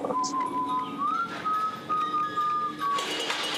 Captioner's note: man whistling; chainsaw buzzing